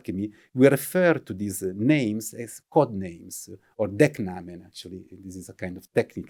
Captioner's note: german